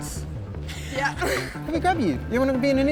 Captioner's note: laughs